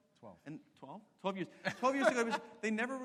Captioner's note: laughs